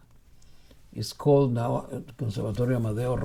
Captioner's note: speaking in foreign language